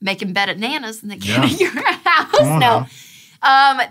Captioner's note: laughs